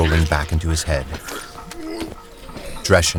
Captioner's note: bodily convulsions